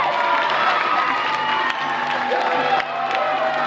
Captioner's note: applause